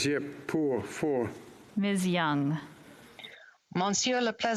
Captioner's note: speaking French